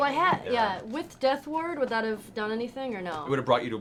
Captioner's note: none